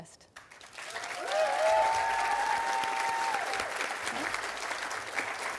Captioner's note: audience applauding and cheering